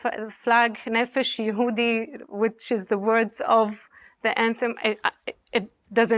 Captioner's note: speaking hebrew